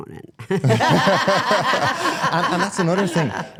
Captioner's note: participants laugh